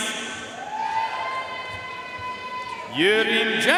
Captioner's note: audience cheering and applauding